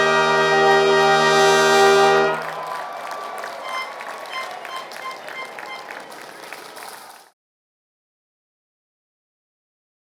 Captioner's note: applause